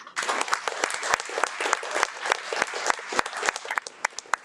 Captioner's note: audience applauding